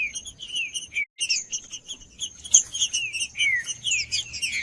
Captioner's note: trinca ferro cantando